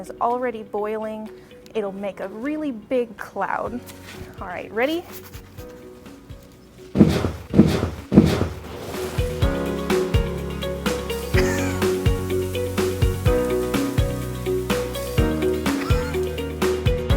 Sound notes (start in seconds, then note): 6.9 liquid combusts; 11.7 fizzing